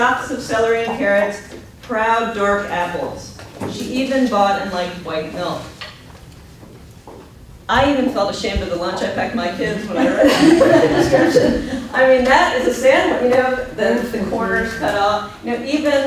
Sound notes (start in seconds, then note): 11.7 laughs